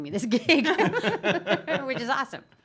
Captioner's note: laughing